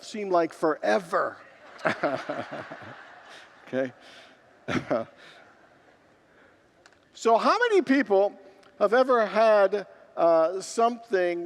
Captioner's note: congregants laugh